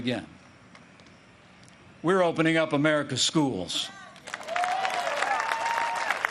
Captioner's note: applause